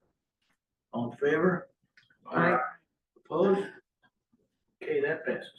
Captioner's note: in Unison